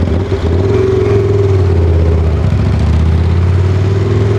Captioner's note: engine revving